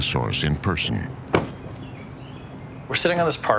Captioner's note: car door shuts